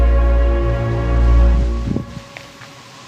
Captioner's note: none